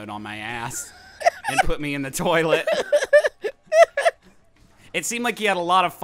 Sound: laughs

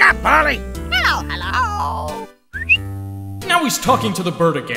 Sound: whistle

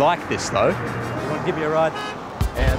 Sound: car horn beeps

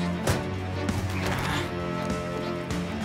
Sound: sighing

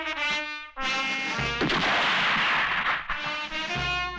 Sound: gun Firing

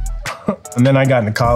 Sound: sharp chuckling

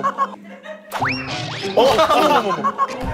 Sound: boink

